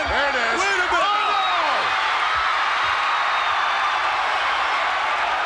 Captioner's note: audience cheers